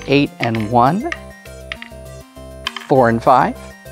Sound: wooden tabs clattering

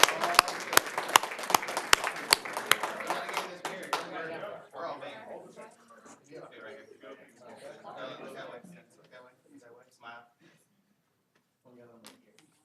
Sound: applause

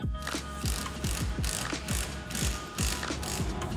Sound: driller grinding; bright upbeat music

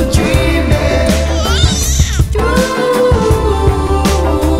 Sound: baby yells

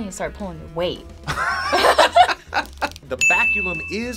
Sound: both laugh

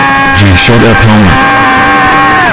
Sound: pixel homer's scream

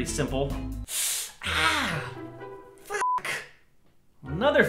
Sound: pain noises

